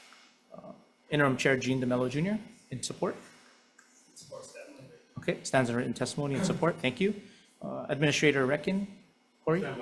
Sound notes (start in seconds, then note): 4.6 speaks faintly